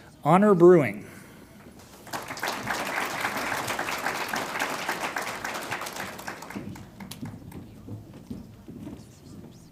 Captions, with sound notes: Honor Brewing. (audience applauds)